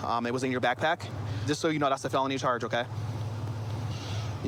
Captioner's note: none